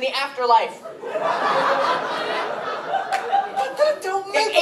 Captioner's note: laughter